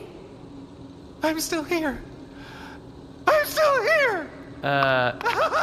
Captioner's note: hesitantly; triumphantly; can be heard running away laughing